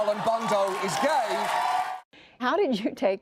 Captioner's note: cheering and applause